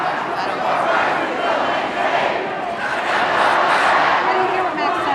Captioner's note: chanting